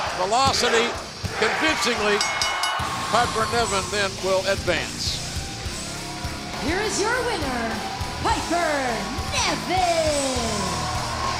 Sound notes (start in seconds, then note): 2.1 bell ringing